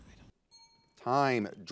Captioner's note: ding